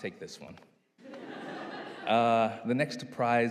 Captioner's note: audience laughing